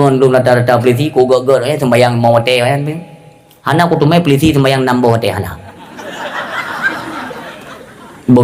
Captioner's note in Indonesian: tertawa